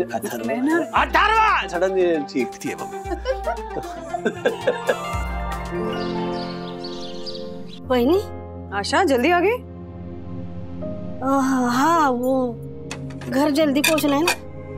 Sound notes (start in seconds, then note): 2.9 laughing; 4.5 birds chirping